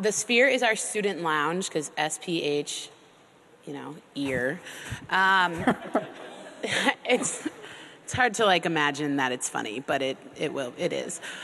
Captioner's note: laughter